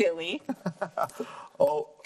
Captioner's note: laughing